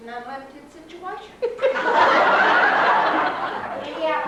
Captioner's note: laughter